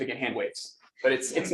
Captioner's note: laughter